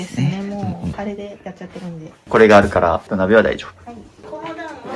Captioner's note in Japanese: 咳払い